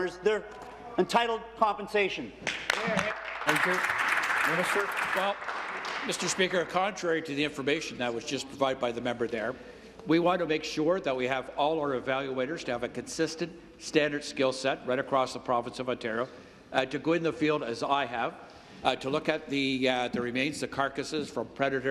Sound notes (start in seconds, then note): 7.6 applause